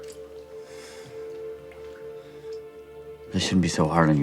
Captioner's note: Lance breathing uneasily